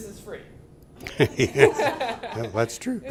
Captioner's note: laughter